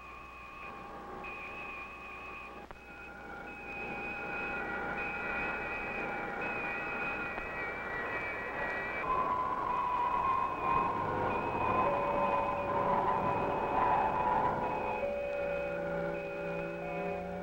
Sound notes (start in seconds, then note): 4.0 engine roaring; 13.0 mysterious orchestral music